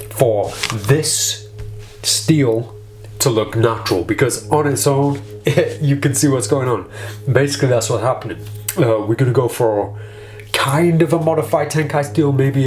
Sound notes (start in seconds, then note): 5.4 chuckles